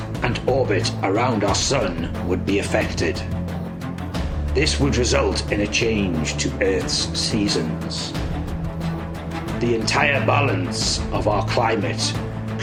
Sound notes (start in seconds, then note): none